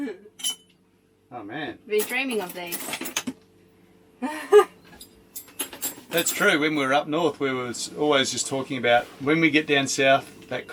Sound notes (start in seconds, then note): 0.0 chuckling; 0.4 spoons tinkling; 4.2 laughing; 4.4 spoons tinkling